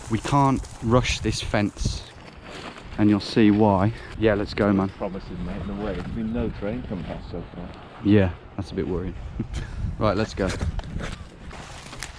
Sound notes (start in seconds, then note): 9.4 laughs